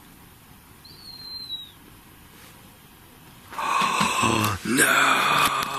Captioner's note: whistling; gasping